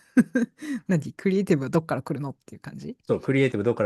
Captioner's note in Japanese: 笑い